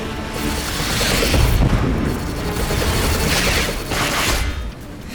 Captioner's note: explosions